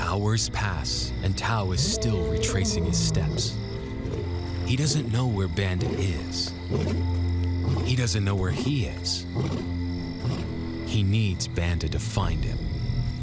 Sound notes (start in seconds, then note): 1.6 lion roaring